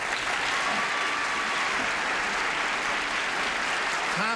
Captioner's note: applauding